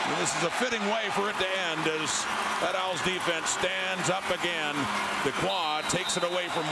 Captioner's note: crowd Noise